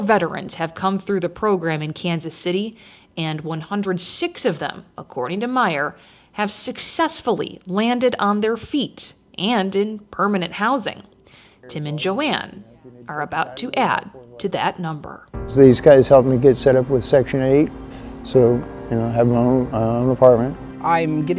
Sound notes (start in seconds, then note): 11.7 chatting distantly; 15.3 soft music